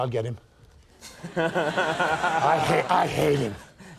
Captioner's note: audience laughing